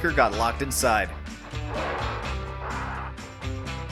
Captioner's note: aggressive ape-like barking